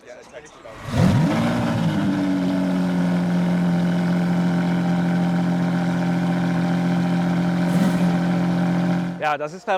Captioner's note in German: Motorsound